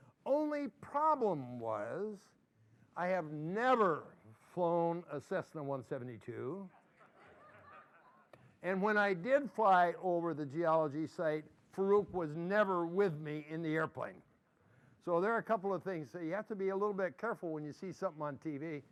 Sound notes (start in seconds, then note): 6.8 laughter